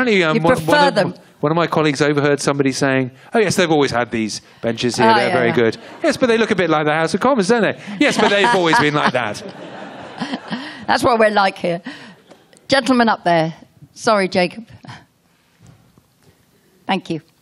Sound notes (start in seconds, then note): 12.7 more laughter